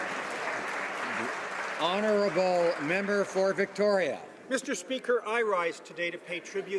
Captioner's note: some Applause